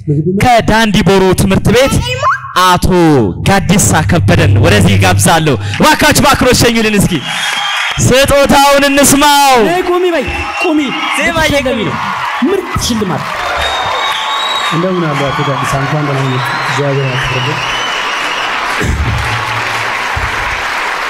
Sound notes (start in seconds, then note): 7.1 applause; 10.2 scream; 13.4 scream and applause; 17.9 applause